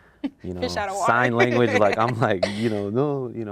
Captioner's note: laughs